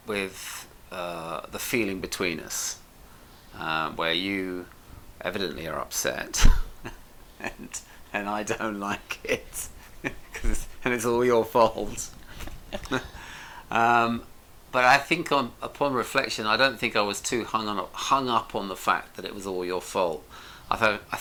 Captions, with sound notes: with the feeling between us, where you evidently are upset. (laughs) And I don't like it 'cause it is all your fault. (both laugh) But I think upon reflection, I don't think I was too hung up on the fact that it was all your fault.